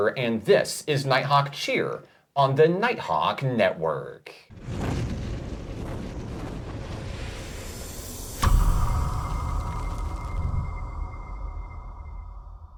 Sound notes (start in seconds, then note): 4.5 Nighthawk whooshing